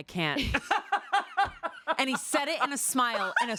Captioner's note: laughing